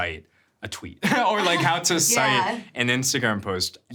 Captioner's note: laughs